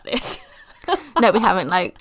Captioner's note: laughs